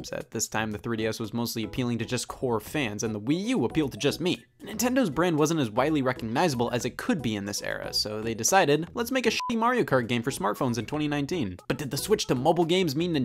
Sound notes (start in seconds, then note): 9.3 beeps